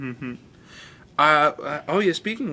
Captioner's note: Thomas chuckles